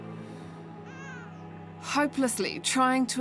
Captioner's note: baby crying